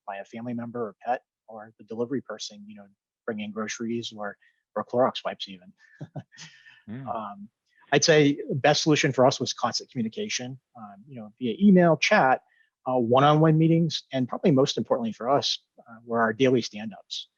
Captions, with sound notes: by a family member or a pet or the delivery person bringing groceries or real Clorox wipes, even. (laughing) I'd say the best solution for us was constant communication via email chat, one-on-one meetings and probably most importantly for us were daily stand-ups.